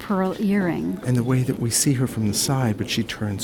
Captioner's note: voiceover